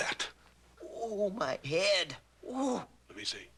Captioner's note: groaning